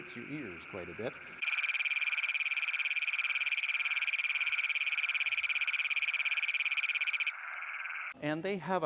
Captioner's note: toad call